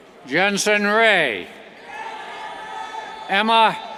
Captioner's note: cheers